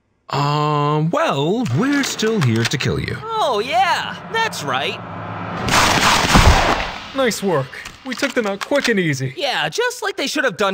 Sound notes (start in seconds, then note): 5.6 gunshots firing